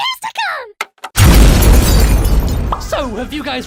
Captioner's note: explosion